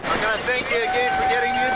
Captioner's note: people cheering